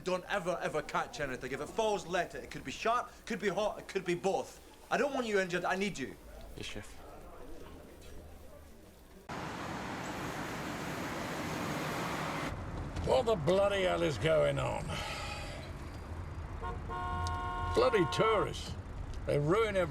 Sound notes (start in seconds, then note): 10.2 engine rumbling; 14.8 sighs; 16.5 horn honking